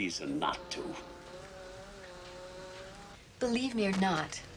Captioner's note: buzzing